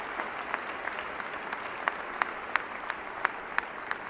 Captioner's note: applause